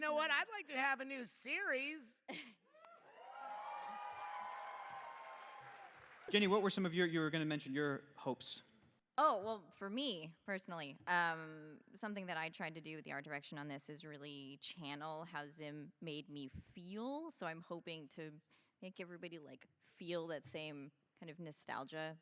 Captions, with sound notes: You know what, I’d like to have a new series. [cheers] Jenny, what were some of your, you were going to mention your hopes? Oh, well, for me, personally, something that I tried to do with the art direction on this is really channel how Zim made me feel. So, I’m hoping to make everybody like feel that same kind of nostalgia.